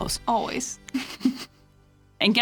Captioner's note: laughing